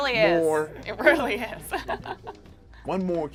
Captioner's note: laughs